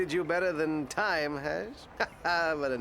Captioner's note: laughs